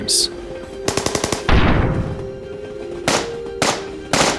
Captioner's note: sounds of gunfire